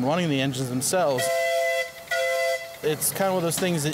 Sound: whistle blows

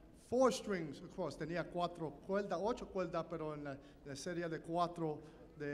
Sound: speaking in Spanish

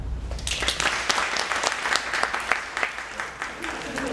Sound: applause

